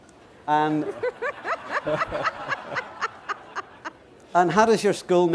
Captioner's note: laughter